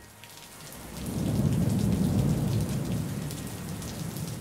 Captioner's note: rain pattering